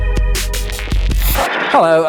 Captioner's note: static